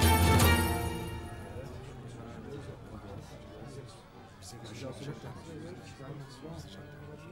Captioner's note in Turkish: Müzik - Gerilim; Kalabalık konuşma sesleri